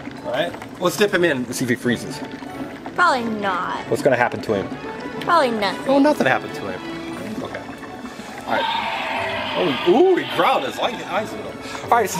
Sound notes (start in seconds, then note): 8.4 dinosaur growls